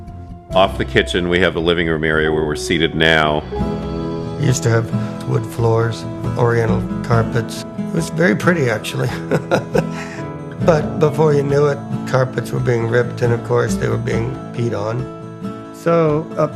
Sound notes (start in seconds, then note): 12.5 chuckling